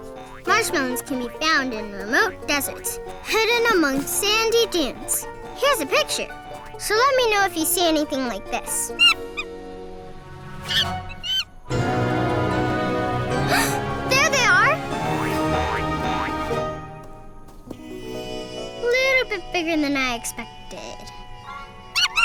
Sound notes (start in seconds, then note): 0.0 playful cheery music; 10.6 monkey squeaks; 11.5 dramatic inspirational music; 13.4 gasps